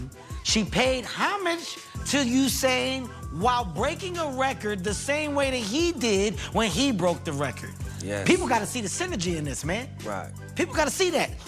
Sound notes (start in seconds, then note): none